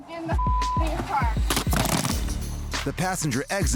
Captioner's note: clattering